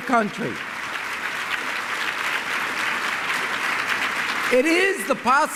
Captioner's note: applause